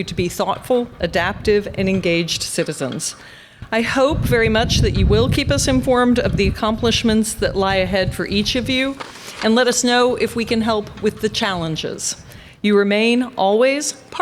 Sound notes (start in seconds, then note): none